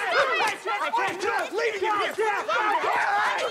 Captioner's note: all shout